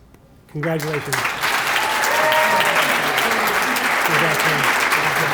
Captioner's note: applause